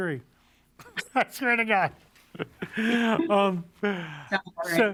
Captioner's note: laughs